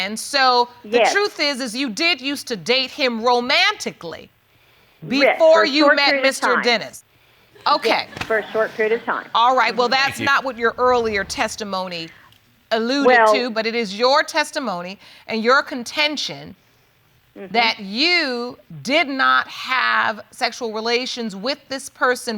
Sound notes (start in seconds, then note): 9.5 audience chuckling